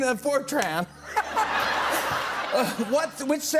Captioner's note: laughter